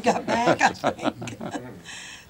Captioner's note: laughter